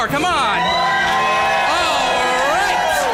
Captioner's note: cheer